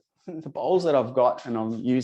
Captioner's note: chuckles